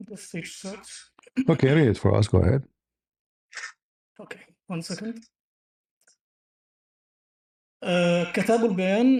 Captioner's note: reads in Arabic